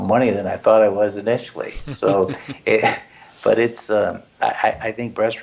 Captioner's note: laugh